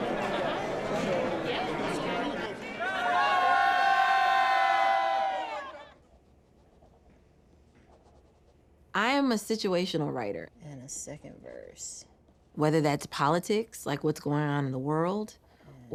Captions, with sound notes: [ All cheering ] I am a situational writer... And a second verse. ...whether that's politics, like what's going on in the world,